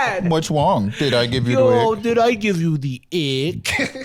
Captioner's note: in baby voice; laughs